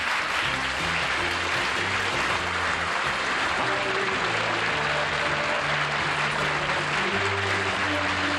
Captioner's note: applause